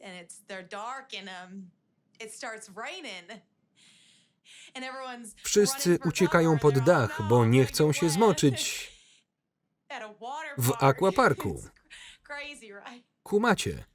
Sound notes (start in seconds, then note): 10.7 laughs